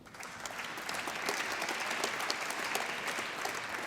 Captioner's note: applause